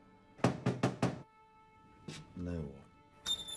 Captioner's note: pensive music; officer knocking